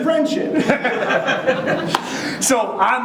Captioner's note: audience chuckling